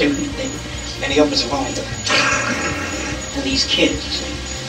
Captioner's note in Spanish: simula sonido de billetes